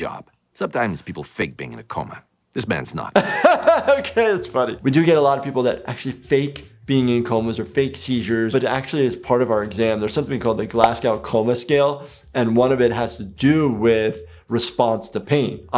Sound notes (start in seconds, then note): 3.1 laughs